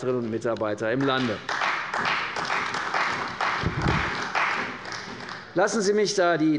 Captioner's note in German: Beifall bei der CDU und dem BÜNDNIS 90/DIE GRÜNEN